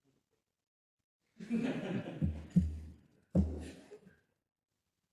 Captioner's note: laugh